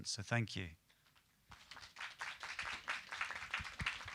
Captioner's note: applause